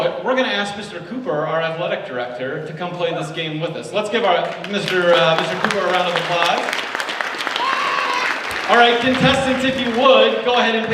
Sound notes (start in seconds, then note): 6.8 audience applauds